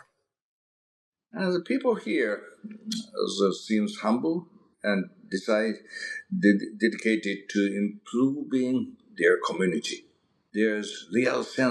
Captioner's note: mouth smack